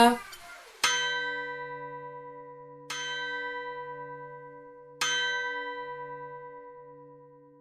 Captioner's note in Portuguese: O relógio marca a passagem da hora